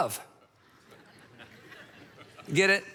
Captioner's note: audience laughs